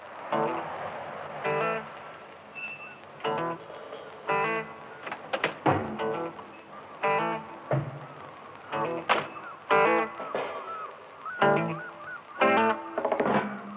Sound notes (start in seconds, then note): 0.2 laid back funk music; 8.1 seagulls squawking